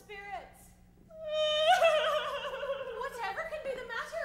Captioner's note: Constance cries